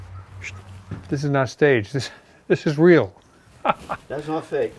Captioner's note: laughs